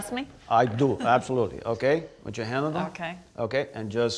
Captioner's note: chuckles